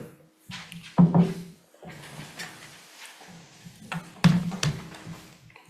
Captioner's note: chairs shuffling